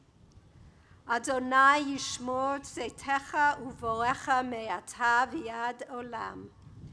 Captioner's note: foreign Language Spoken